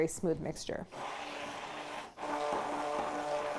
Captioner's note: blender whirring